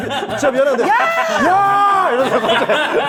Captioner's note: fading away with a cry